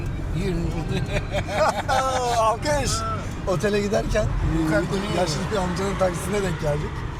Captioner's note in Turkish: kahkaha